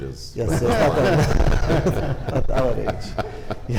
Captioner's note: group laughing